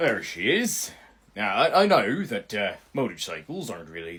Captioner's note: none